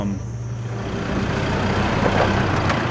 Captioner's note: engine noise